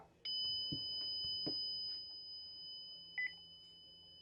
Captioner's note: alarm beeping